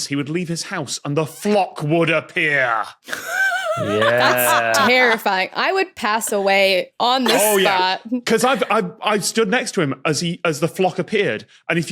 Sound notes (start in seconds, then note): 3.1 wheezes intensely